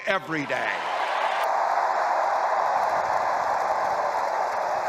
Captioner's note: crowd cheering